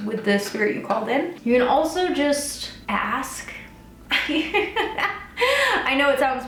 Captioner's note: laughs